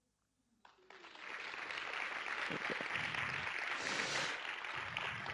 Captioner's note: audience clapping